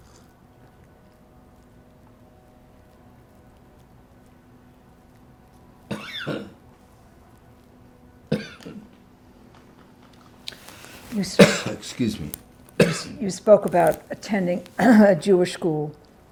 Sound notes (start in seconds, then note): 0.0 pauses 10 seconds; 5.3 coughing